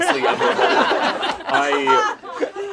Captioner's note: all laugh